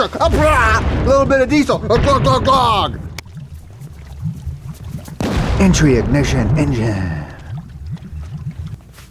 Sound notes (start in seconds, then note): 0.2 chemicals exploding; 3.7 liquid boiling; 5.4 chemicals exploding